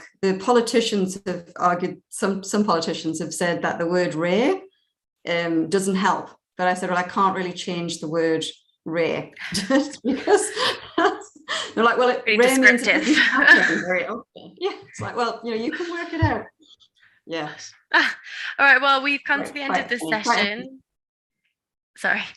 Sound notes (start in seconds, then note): 9.4 chuckling